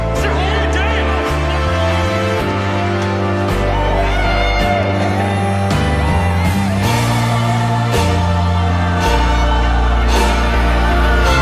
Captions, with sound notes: I said hold her down! [screaming] [dramatic music]